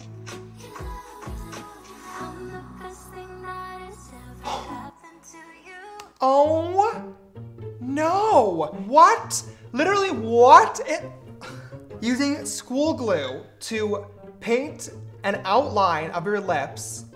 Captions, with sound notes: (gasp) Oh, no! What? Literally, what? Using school glue to paint an outline of your lips,